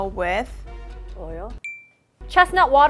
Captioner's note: ping